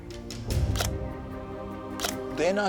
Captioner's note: shutter clicking